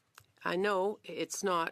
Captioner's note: speaking French